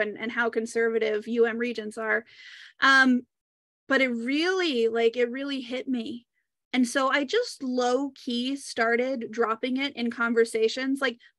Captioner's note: taking a deep breath